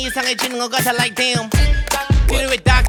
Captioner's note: Tick tock